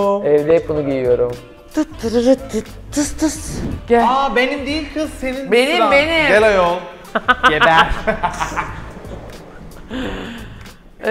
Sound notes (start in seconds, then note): 7.1 laughter